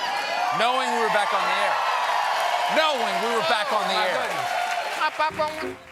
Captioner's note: cheers and applause